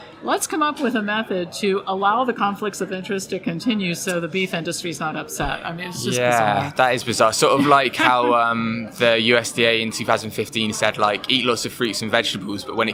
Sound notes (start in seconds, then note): 7.6 chuckles